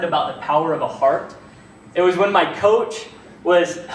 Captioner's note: none